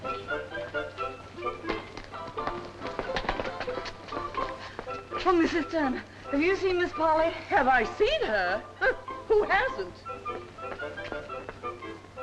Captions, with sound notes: - Oh, Mrs. Turner, have you seen Ms. Polly? - Have I seen her? (scoffs) Who hasn't?